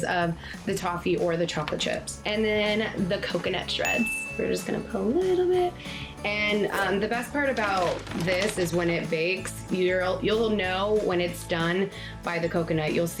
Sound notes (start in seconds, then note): 3.6 pinging